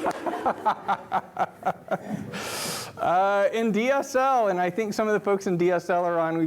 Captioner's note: laughter